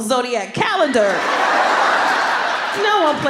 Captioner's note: laughter